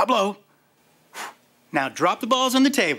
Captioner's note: blowing